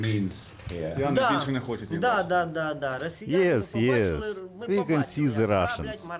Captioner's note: through translator